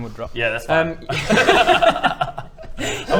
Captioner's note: laughter